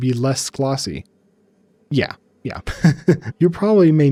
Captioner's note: laughs